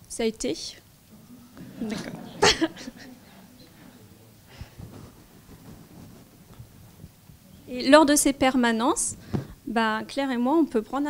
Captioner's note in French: rires